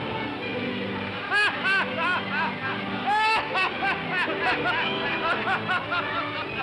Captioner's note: music plays; waves crashing; sailor laughs loudly; laughs